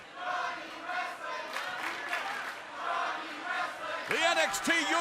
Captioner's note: fans chanting